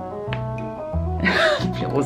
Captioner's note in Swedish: skratt